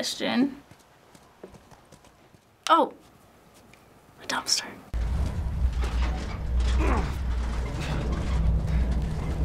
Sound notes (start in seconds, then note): 4.9 Joel grunts; 4.9 dumpster creaks